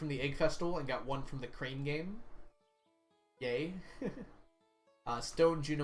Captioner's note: laughs